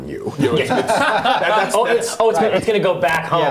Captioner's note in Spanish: risas